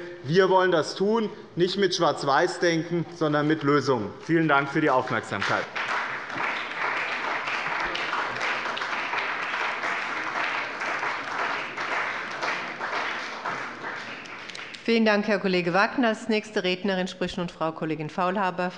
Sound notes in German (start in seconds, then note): 5.9 Beifall bei dem BÜNDNIS 90/DIE GRÜNEN und der CDU